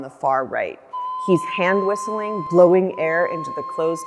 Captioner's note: sound of a whistle